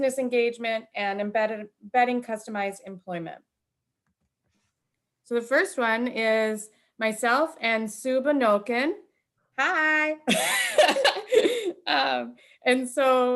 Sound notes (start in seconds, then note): 10.2 laughter